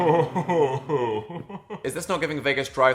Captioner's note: Dan and Phil laughing